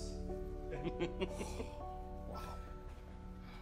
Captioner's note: laughter